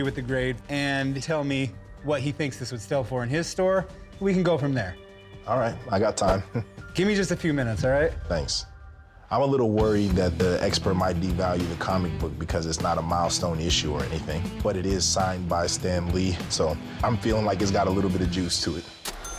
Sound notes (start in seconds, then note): 6.3 chuckles